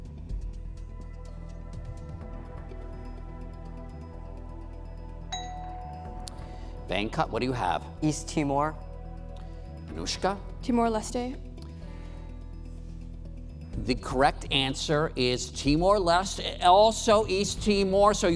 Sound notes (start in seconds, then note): 4.6 intense music; 5.3 bell dings